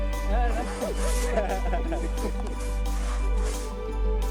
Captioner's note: laughing; uplifting music